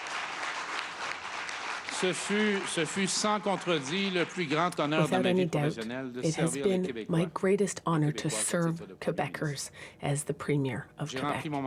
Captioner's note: applause